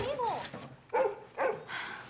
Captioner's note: barking continues; sighs